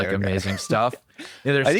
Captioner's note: laughs